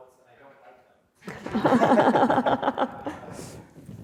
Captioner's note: laughs